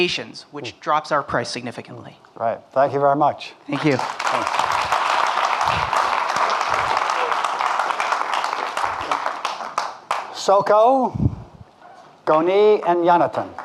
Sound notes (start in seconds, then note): 3.7 audience clapping